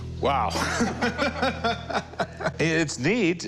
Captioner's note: laughter